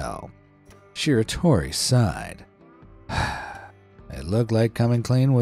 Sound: sighs

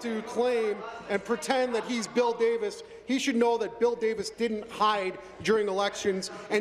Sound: laughter

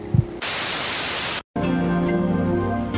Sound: TV static buzzes; calming music

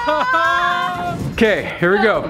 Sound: screaming

